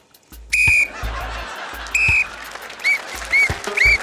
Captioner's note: blows whistle